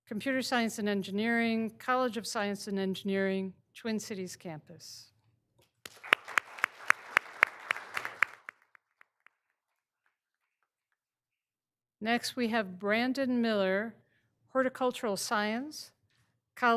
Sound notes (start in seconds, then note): 5.8 all applauding